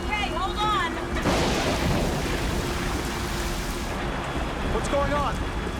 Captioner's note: thunder claps